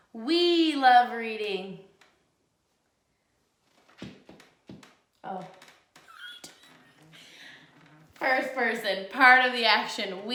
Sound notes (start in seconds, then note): 6.1 laughs